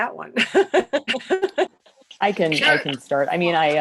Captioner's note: laughter